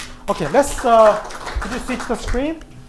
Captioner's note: applause